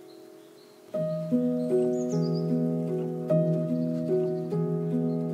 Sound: birds chirping; gentle music

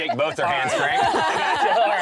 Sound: laughing

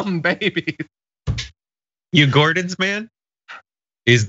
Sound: laugh

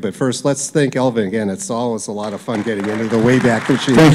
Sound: applause

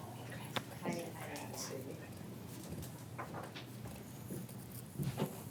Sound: movements and murmuring

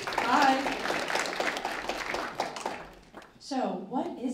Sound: applause

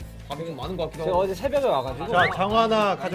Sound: laughs

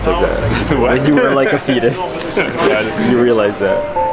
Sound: laughing

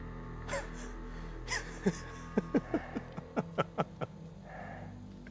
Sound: laughing

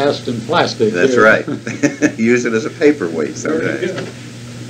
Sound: laughs

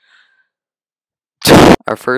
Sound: loud comedic breath into microphone

